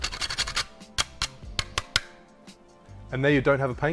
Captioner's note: scraping; tapping